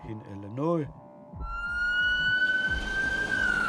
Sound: ambulance wails

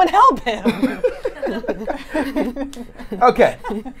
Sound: laughs

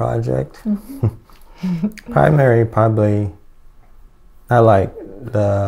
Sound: chuckles

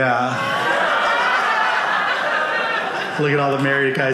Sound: audience laughing

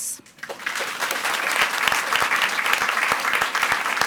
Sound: audience applauds

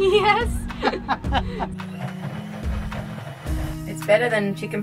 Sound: both laugh

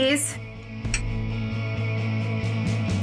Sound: mugs clink together

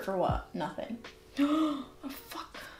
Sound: gasp

